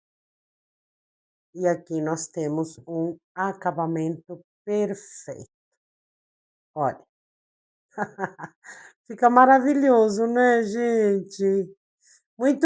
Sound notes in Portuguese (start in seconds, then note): 8.0 risadas